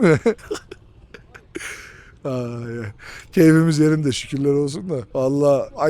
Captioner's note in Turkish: kahkaha